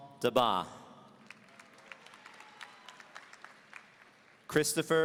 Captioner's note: audience applauding